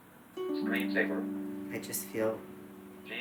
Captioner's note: computer Voice